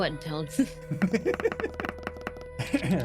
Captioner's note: laughter